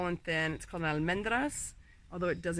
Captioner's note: speaking Spanish